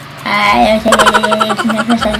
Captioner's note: murmuring